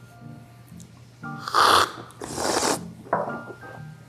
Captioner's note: slurps